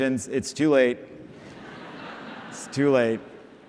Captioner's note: laughter